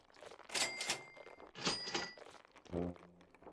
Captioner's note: cash register dinging